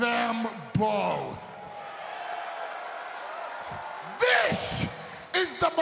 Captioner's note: audience cheering and applauding